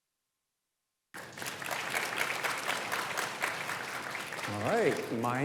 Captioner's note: audience applauds